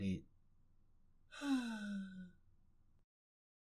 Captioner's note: MASAO sighs